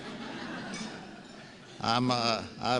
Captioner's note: laughs